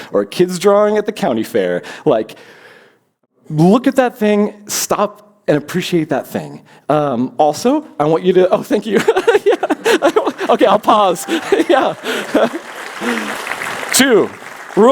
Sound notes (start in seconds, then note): 8.9 laughs; 11.8 applause